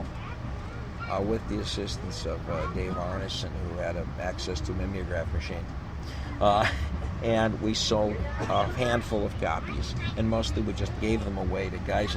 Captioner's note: laughs